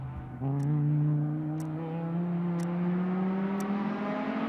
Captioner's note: car motors rev